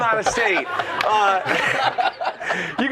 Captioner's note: laughter